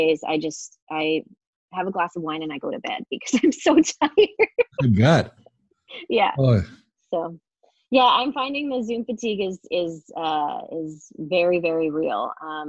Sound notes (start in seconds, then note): 4.7 laughing